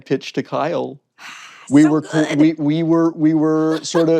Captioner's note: sighs